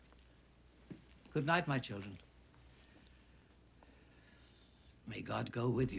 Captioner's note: breathes uneasily